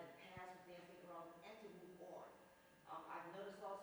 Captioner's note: speaks faintly